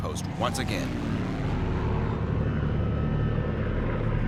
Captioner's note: engine roaring